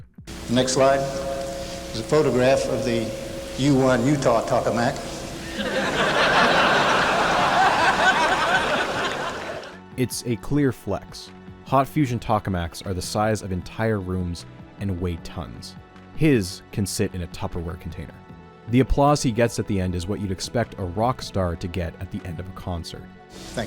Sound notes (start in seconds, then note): 10.0 audience laughter